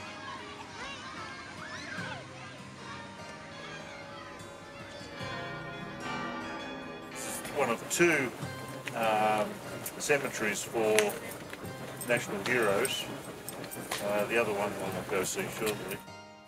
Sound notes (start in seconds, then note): 0.0 calm guitar; 3.4 church Bells